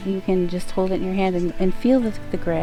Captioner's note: speaking in foreign language